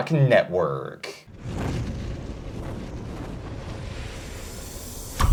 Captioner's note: hawk whooshing